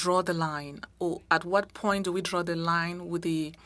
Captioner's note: speaking French